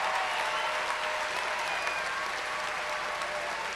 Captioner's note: cheers and applause